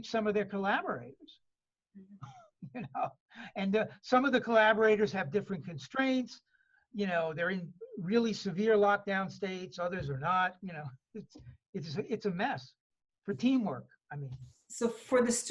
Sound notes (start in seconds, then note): 2.6 laughs